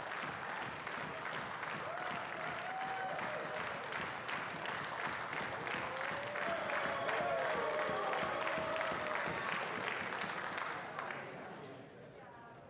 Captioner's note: applause